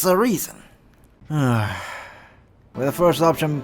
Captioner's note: sigh